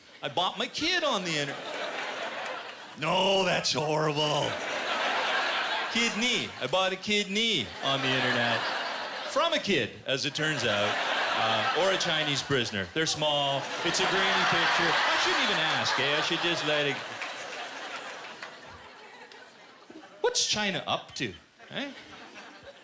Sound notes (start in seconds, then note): 1.4 laughter; 4.2 laughter